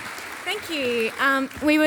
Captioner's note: audience applauding